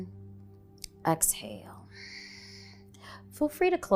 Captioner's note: exhaling